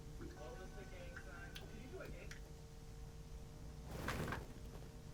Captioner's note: distant talking